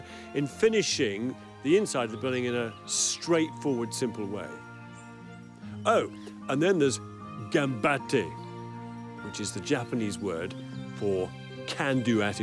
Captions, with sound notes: and for that matter, in finishing the inside of the building in a straightforward, simple way. Oh, and then there's (foreign language) which is the Japanese word for can-do attitude.